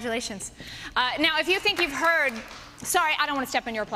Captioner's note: applause